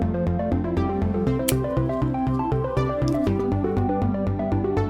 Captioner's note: scissor cuts; upbeat music